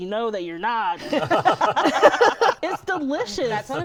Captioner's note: laughter